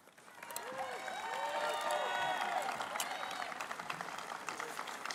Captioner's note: applause